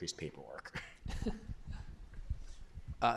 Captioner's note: laughter